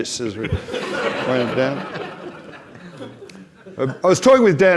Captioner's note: audience laughs